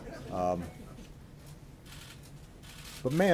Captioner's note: laughter